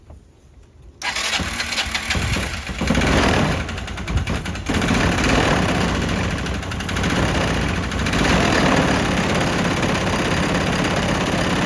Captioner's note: engine running